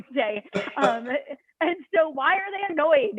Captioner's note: laughter